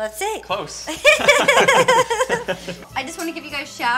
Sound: laughter

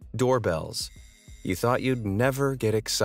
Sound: bell ringing

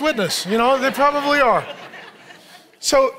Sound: congregation laughing

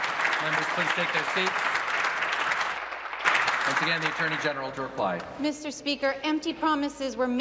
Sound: applause

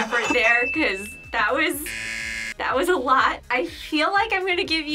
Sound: buzzer rings

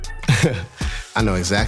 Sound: chuckles

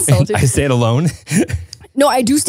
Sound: chuckles

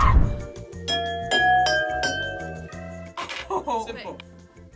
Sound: glasses chiming; laughs

